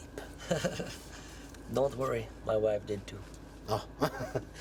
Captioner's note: laughs; laughs